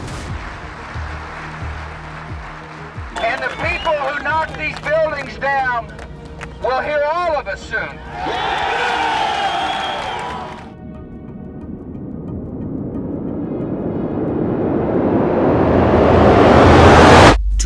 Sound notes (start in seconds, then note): 0.4 audience applauding; 7.8 crowd cheering; 13.6 jet engine roaring